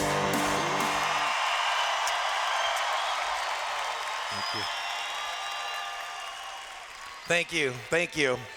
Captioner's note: cheers